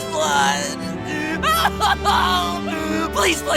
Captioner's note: wailing